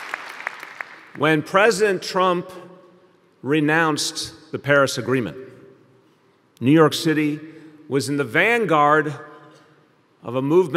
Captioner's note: applause